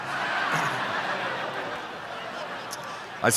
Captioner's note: crowd laughs